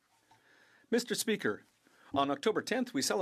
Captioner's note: speaking French